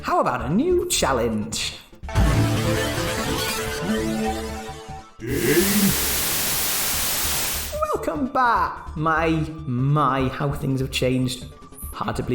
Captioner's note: Static